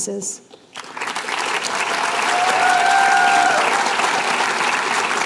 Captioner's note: applause